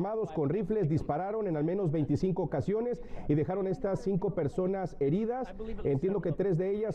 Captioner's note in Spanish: habla en ingés